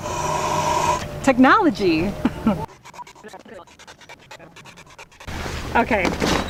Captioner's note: laughing; blowing; squeaking